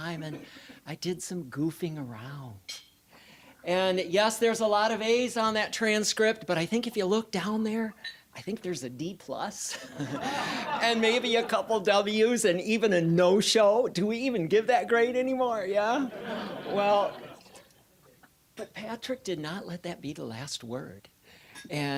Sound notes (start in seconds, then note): 9.8 audience laughing; 16.1 audience chuckling